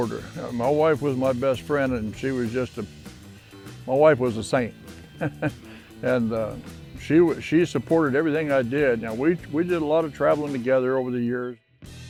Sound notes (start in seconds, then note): 5.0 chuckles